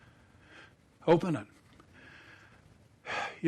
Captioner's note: sighs